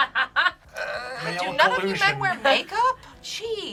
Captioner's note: groans